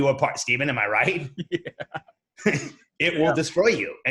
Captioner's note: laughing